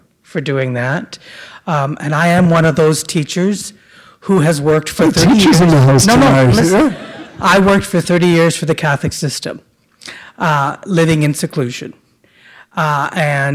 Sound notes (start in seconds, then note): 6.5 laughter